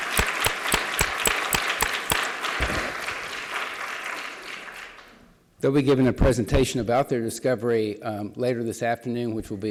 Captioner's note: applause